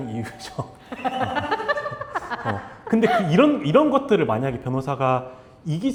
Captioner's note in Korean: 웃음